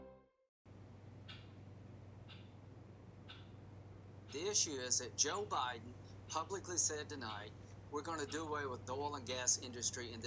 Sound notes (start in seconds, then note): 2.2 faint hammer banging